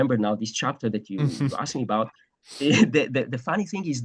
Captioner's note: laughs